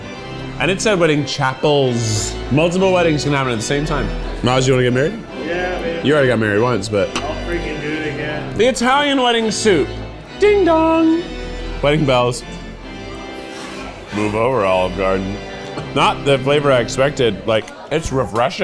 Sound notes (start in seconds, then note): 12.7 chuckles